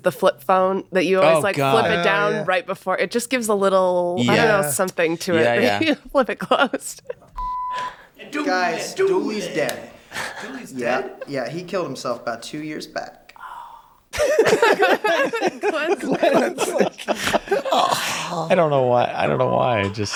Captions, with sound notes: - One of the other things that's nice is the flip phone that you always like flip it down right before, it just gives a little, I don't know, something to it. Then you flip it closed. (beeping) - Guys, Dooley's dead. - Dooley's dead? - Yeah, he killed himself about two years back. - Oh. (group laughs)